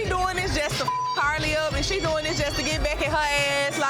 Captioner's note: beep